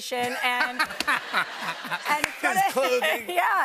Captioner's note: laughter